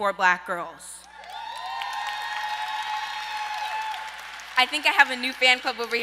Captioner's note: audience cheers